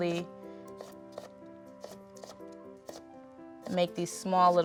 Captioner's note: knife chopping